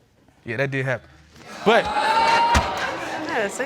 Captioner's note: audience exclaims